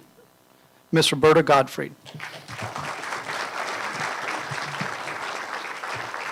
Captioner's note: applause